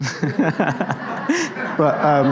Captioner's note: audience laughs